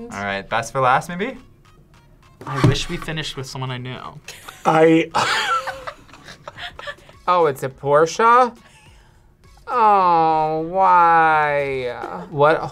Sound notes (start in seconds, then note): 5.1 laughs